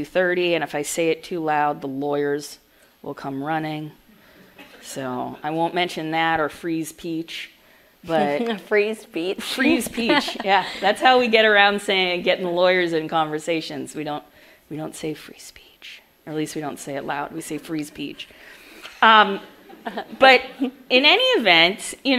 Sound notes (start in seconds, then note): 9.6 laughs; 19.5 audience laughs